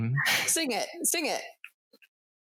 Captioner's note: laughs